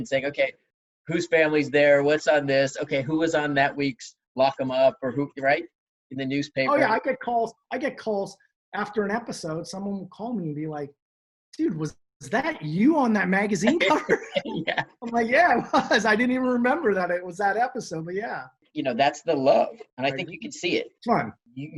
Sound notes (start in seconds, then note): 13.6 laughs